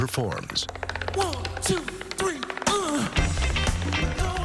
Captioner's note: grunts